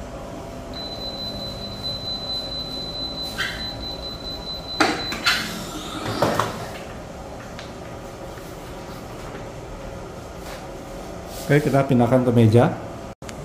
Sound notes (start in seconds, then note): 0.7 beeping sound; 4.6 press machine noise; 7.5 covering paper noise